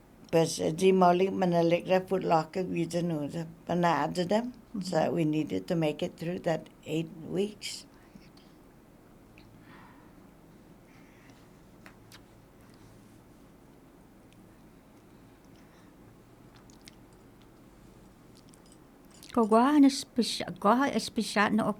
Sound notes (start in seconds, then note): 8.3 silence